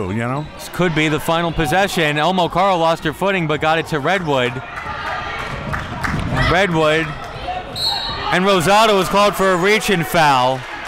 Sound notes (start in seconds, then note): 4.6 crowd clapping; 7.7 referee blows whistle